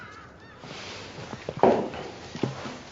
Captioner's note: birds caw; mug clatters